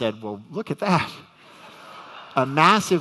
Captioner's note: audience laughs